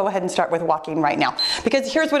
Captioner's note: timer beeps